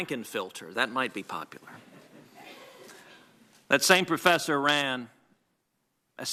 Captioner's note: laughter